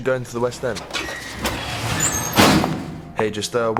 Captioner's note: doors squeaking and thudding